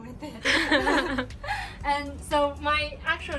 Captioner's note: laughing